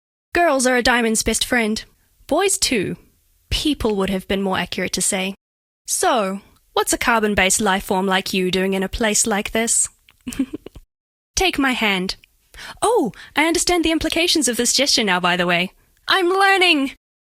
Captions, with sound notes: Girls are a Diamond's best friend. Boys too. "People" would have been more accurate to say. So, what's a carbon based life form like you doing in a place like this? *giggle* Take my hand. Oh! I understand the implications of this gesture now, by the way. I'm learning!